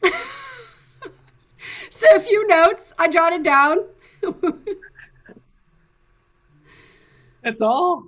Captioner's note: laughs